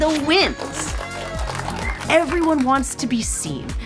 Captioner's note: clapping; party horns honking